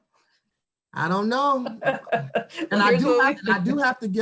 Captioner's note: laughing